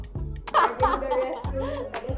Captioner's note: laughs